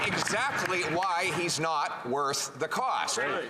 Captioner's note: applause